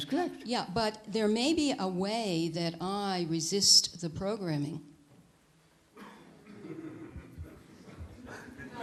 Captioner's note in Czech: smích